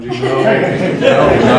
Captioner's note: laughter